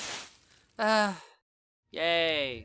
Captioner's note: sigh